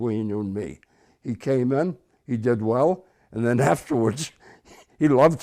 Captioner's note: chuckles